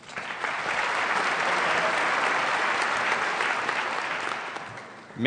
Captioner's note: applause